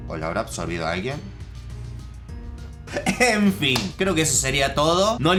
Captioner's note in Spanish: Risas :v